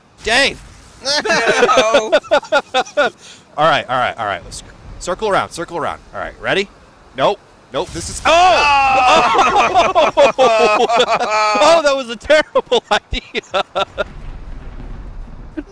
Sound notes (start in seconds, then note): 1.1 laughter; 8.7 group laughter; 13.6 laughter